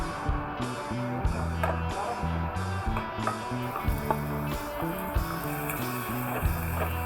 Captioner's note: vroom vroom